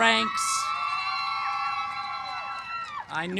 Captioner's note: cheering